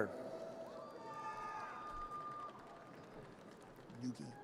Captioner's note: audience cheers